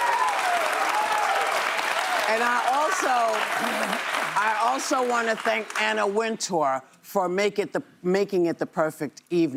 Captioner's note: cheers and applause